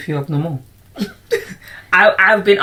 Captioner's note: laughter